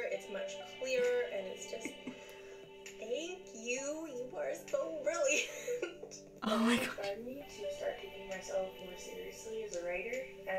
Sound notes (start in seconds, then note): 1.7 chuckles